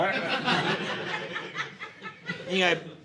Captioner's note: audience laughing